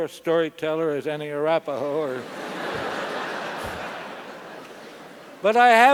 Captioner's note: laugh